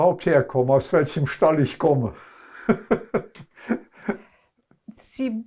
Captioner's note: laughing